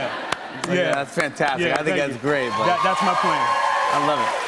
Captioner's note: cheers and applause